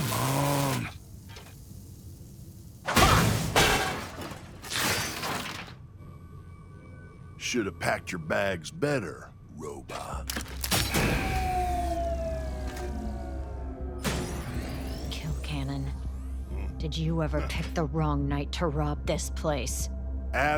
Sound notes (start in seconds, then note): 3.4 metal clangs; 11.0 machine whirs